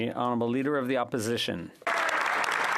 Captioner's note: speaking French